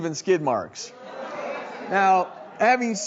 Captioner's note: audience groaning